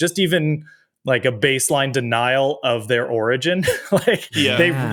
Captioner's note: chuckles